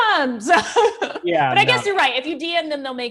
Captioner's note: laughs